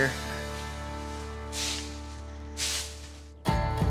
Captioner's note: sweeping